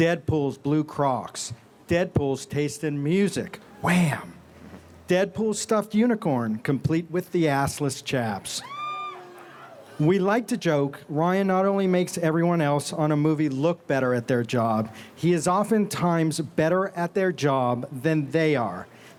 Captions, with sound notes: Deadpool's Blue Crocs, Deadpool's taste in music, Wham! Deadpool's stuffed unicorn, complete with the assless chaps. (fans squeal) We like to joke, Ryan not only makes everyone else on a movie look better at their job, he is oftentimes better at their job than they are.